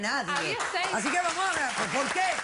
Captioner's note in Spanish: aplausos